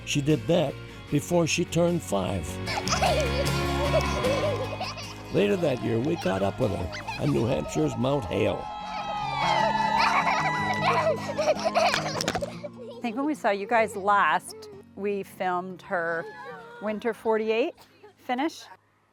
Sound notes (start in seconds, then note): 2.6 giggling; 9.5 cheering; 9.9 giggling